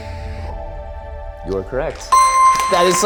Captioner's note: bell rings